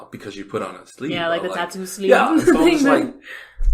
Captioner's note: laughs